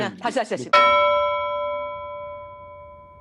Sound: bell effect

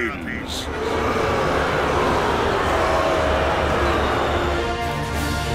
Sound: crowd booing

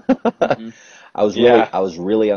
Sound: laugh

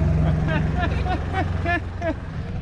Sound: laughing

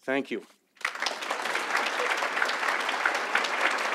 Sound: audience applauds

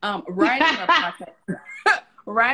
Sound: laughs

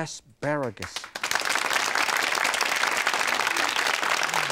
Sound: crowd clapping

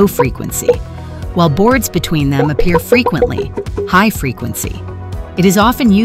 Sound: high frequency

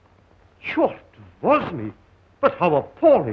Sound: speaking russian

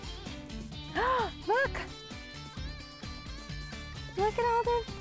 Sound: gasps

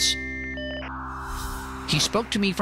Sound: signal beeping

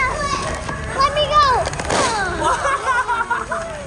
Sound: paper rustles; dad laughs

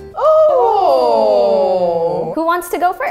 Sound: all groaning

